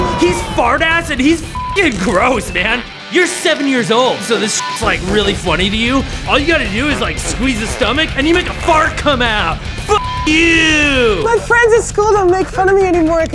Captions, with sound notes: He's Fart Ass and he's (beep) gross, man. You're seven years old. So this (beep) like really funny to you. All you gotta do is like squeeze his stomach, and you make a fart come out. (beep) you! - My friends at school don't make fun of me anymore